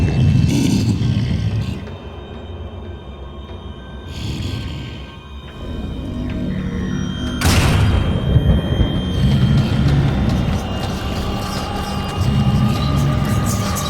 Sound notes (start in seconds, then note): 0.8 animal growls; 7.4 door slams; 10.2 dramatic music